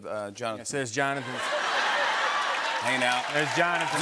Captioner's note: laughter and applause